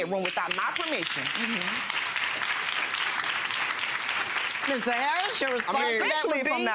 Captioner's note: audience clapping